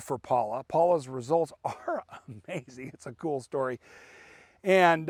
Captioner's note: laughing